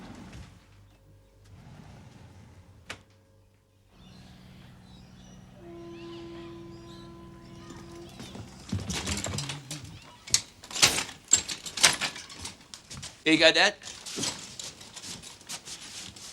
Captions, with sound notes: [Door clicking] [Hums] HERE YOU GO, DAD.